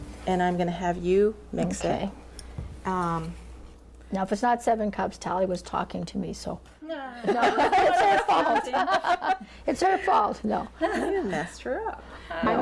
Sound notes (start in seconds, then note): 7.2 laughing